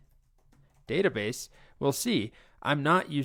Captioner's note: keyboard typing